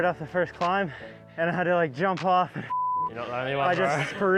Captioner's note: beep